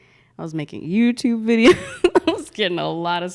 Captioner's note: laughs